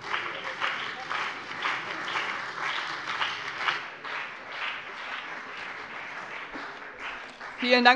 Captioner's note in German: Beifall CDU und BÜNDNIS 90/DIE GRÜNEN